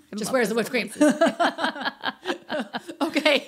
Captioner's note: laughing